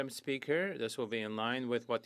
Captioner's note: speaking French